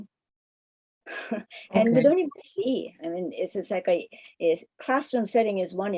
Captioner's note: laughs